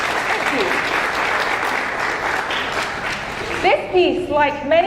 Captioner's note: audience applauding